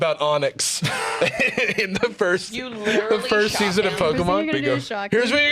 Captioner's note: laughs